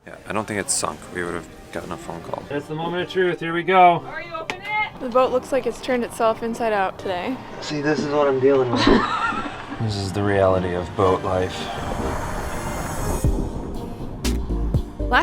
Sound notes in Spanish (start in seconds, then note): 8.3 riendo; 11.9 chill música electrónica